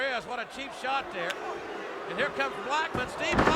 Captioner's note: crowd booing